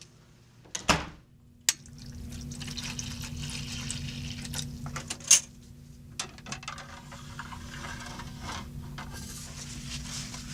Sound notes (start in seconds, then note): 0.7 door clicks shut; 1.7 liquid being poured